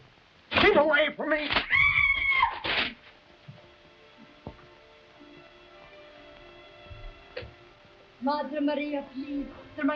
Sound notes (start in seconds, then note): 1.6 Camila screeching; 1.9 hand slaps; 2.5 papers rustling; 3.0 mournful music